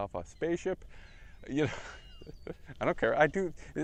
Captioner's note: laugh